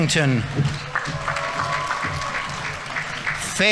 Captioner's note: audience applauding; audience members cheering